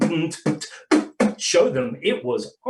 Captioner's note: beatboxing